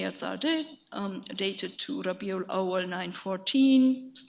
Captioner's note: speaks in a foreign language